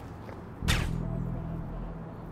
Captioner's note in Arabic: طلق ناري صامت